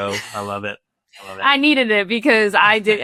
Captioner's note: chuckling